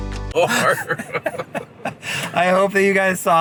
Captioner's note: vlogger laughs